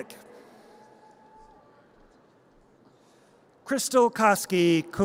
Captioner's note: audience cheers